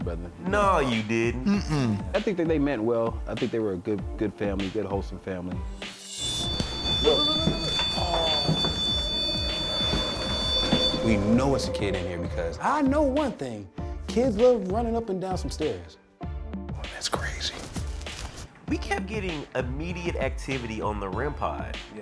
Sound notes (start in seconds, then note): 5.9 high-pitched drone; 6.2 footsteps; 16.3 whispering